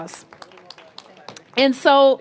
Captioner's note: applause